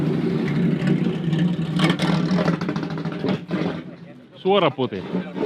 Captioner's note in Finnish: moottorin ääni